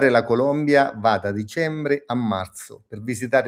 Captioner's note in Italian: none